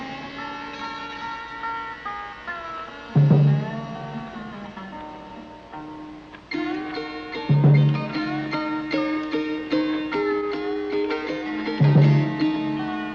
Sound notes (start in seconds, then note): none